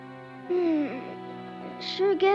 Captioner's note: yawns